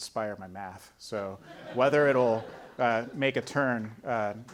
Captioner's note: audience laughing